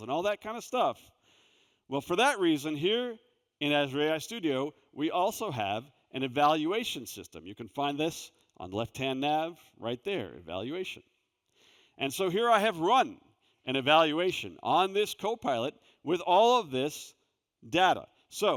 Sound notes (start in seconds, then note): none